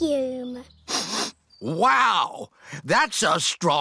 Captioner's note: sniffs